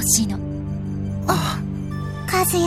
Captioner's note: bated breath